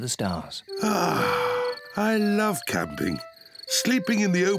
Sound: sighs

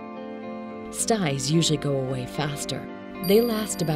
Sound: chime sounding

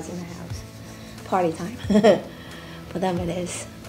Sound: laughing

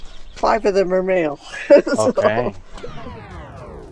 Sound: chuckling

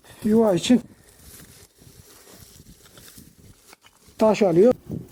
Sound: sounds of rustling from grass and sounds when picking stones

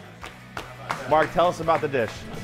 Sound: chefs clapping

